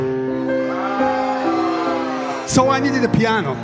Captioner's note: crowd: aaahhhhhhh!